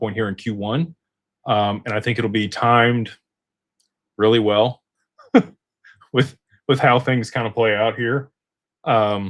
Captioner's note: laughter